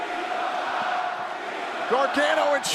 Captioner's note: crowd cheering